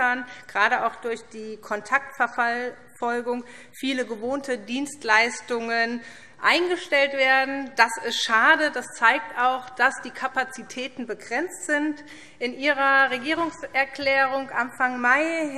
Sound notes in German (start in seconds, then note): none